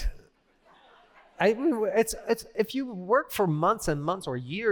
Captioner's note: laughter